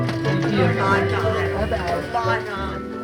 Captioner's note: indistinct chatter